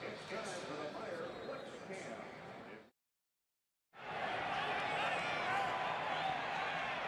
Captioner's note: announcer speaking